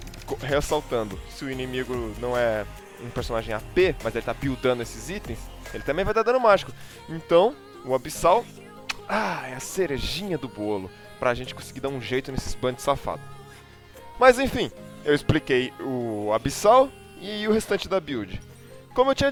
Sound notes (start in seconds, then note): 8.8 smack